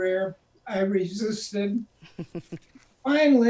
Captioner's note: chuckles